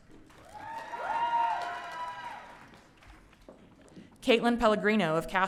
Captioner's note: audience cheering